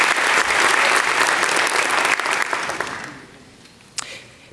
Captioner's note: applause